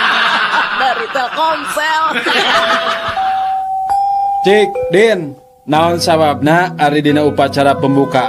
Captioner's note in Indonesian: tertawa